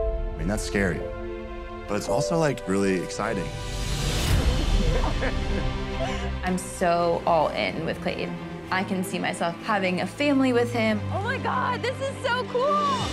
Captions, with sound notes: I mean, that's scary. But it's also, like, really exciting. [dramatic music] [both laugh] - I'm so all-in with Clayton. I can see myself having a family with him. Oh, my God. This is so cool!